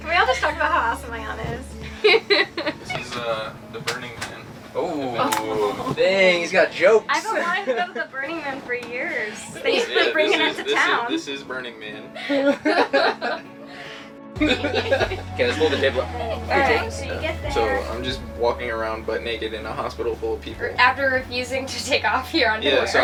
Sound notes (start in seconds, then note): 1.8 laughs; 12.8 laugh